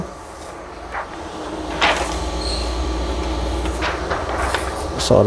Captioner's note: PET film noise